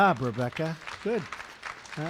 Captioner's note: applause